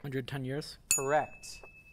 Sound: ding

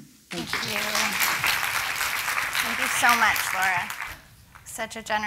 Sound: applause

